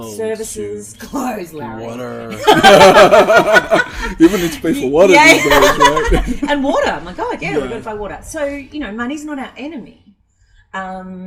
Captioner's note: both laugh